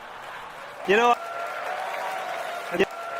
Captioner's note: loud Applause